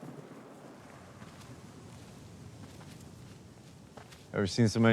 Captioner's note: trees rustling